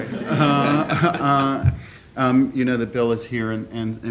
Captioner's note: laughing